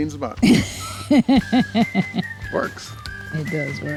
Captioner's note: camera operator laughs